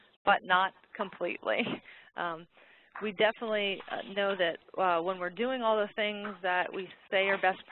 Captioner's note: laughs